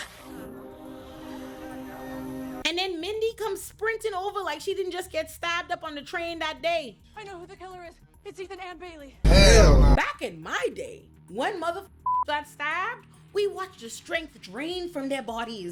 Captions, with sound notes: And then Mindy comes sprinting over like she didn't just get stabbed up on the train that day. (grunting) Back in my day, one mother (beep) got stabbed. We watched the strength drain from their bodies.